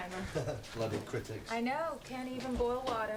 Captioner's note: Rob laughs